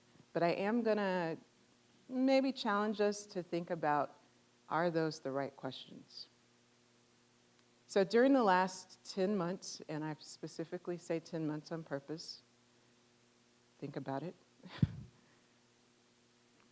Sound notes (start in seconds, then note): 14.7 chuckling